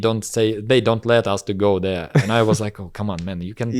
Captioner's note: laughs